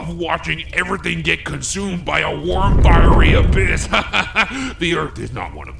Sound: laughs

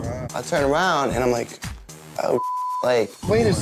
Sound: beep

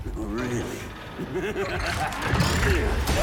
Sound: laughs

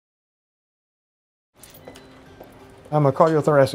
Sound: footsteps

